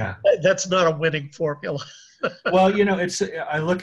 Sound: laughs

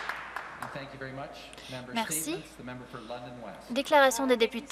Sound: some Applause

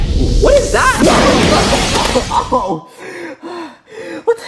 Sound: glass shatters

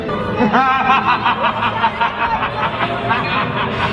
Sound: evil laughter

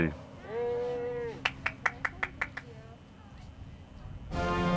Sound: audience applauding

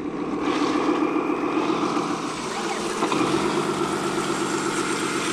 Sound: vehicle engine roaring

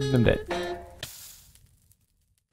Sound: sizzle

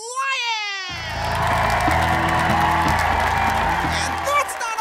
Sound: cheer/applause

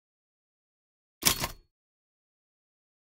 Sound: sound of typewriter

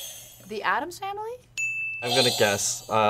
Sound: buzzer rings; bell rings

